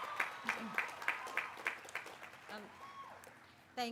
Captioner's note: applause